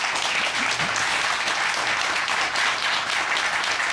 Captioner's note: applause